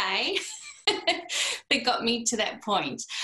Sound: laughter

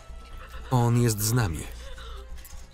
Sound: whimpering

